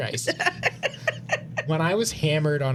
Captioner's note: laughing